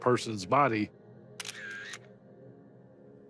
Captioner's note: camera clicks